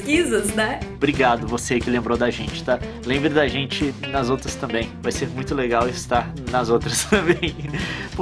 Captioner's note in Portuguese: risos